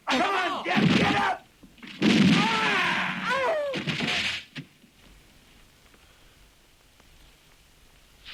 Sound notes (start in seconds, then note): 2.2 gun roars